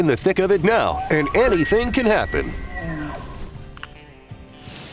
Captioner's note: elk bugling